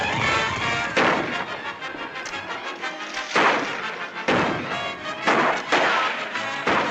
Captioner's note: tense music; gunshots